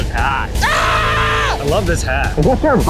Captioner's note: screaming